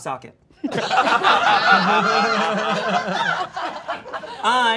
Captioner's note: all laughing